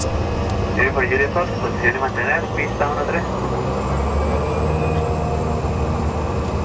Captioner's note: air traffic control speaking Spanish